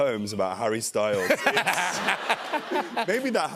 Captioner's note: laughter